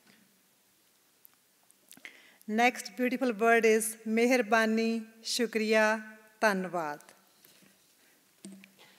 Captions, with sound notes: Next beautiful word is (non-English phrase).